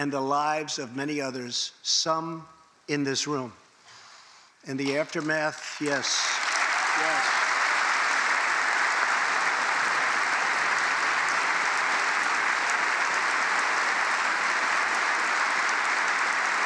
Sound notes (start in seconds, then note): 10.0 applause